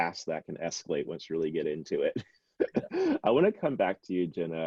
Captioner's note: laughs